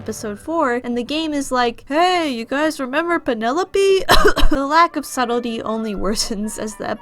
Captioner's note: cough cough